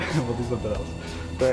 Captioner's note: everyone laughing